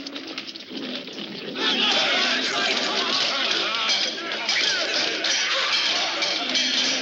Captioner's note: shouting